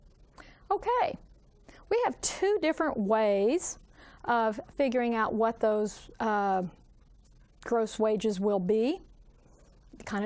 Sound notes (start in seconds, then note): none